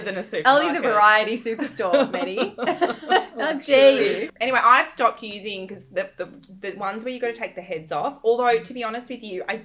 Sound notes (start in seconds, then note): 1.6 laughing